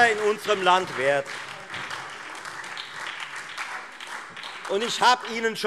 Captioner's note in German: Beifall Freie Demokraten und SPD